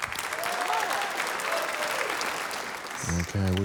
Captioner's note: cheering, applause